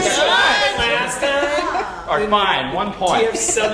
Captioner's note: shout